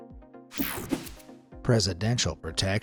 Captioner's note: graphics whooshing